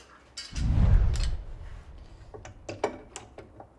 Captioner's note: air whooshes